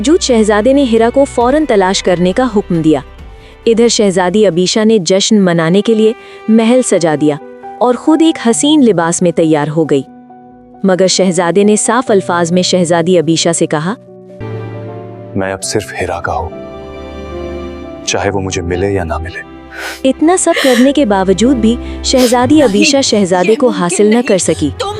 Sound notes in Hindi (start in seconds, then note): 19.7 अचानक ज़ोर से सांस लेने की आवाज़